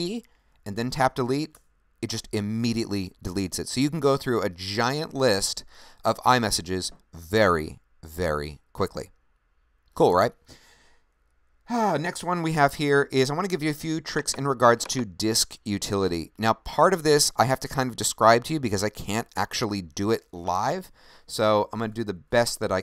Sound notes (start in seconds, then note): 9.9 sighs